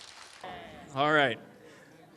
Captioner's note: applause